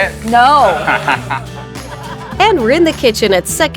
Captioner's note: laughing